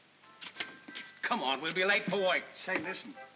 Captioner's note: smack